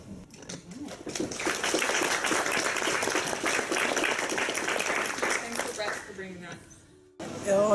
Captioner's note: applause